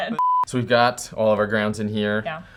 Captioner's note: beep